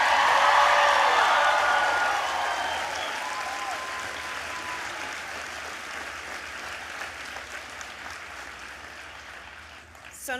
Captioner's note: applause